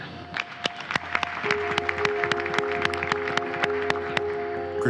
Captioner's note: audience applauding